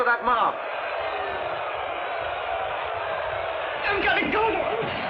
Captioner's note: shouting